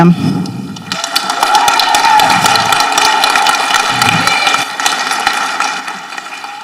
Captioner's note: people applauding and cheering